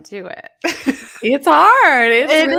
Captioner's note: presenter laughing